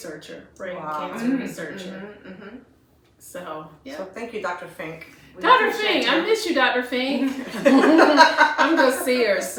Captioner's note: laughter